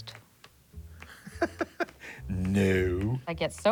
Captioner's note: laughing